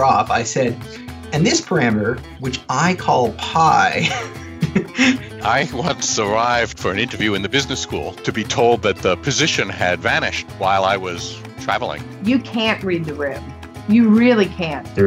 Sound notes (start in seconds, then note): 3.8 laughs